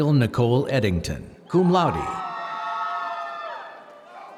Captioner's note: applause